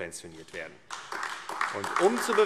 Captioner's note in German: Beifall AfD